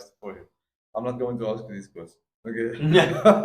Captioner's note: laugh